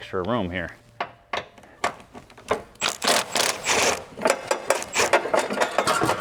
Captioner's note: drilling